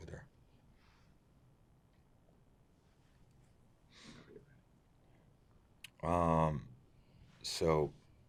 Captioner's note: pauses 6 seconds